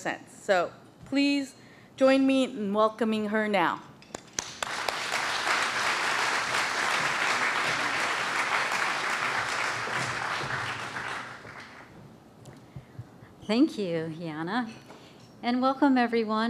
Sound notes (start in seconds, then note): 4.2 applause